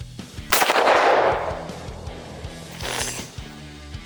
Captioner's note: rifle bangs